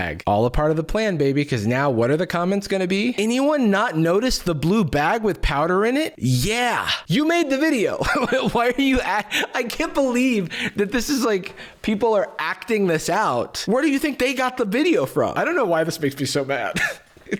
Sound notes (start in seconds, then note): 7.9 laughs